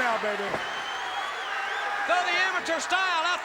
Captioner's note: crowd cheering